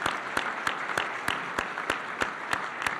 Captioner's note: applause